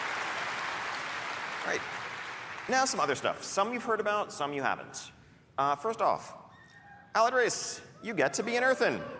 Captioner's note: cheering; applause